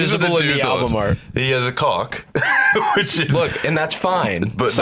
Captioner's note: laughs